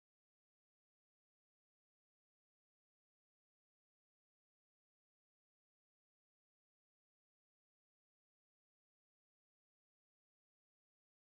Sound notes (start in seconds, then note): none